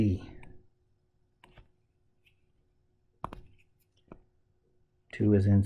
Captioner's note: tapping Sounds